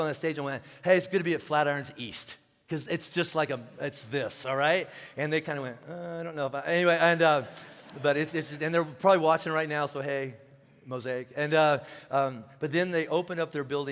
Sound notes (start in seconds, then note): 6.8 congregation laughing